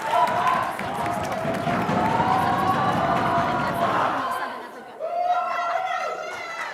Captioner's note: audience cheering and clapping; audience members pounding on tables; audience members yelling and clapping